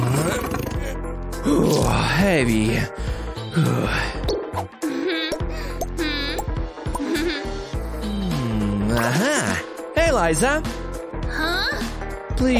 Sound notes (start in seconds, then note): 4.3 burp